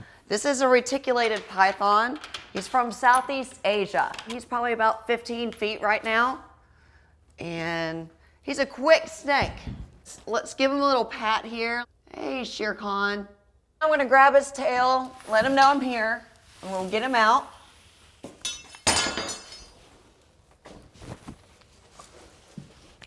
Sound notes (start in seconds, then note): 18.3 metal clunking